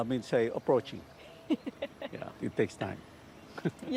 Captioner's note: laughs